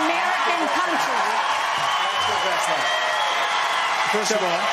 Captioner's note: applause